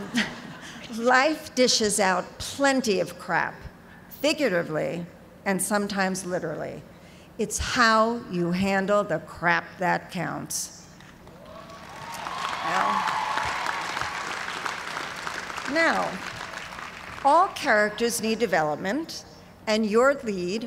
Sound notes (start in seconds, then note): 11.3 cheers and applause